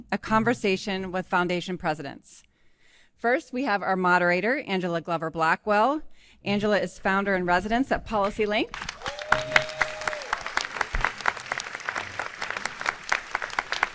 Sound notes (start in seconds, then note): 8.8 audience applauding and cheering